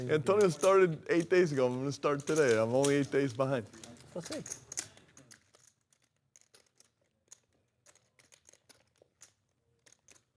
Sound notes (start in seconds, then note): 4.1 chips clacking